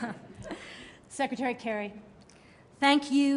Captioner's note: laughter